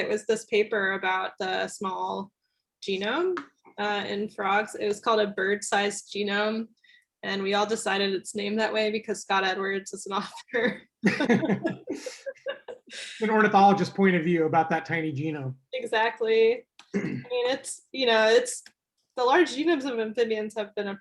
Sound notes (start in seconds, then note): 11.0 laughter